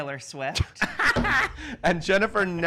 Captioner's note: laughter